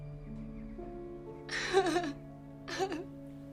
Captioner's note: crying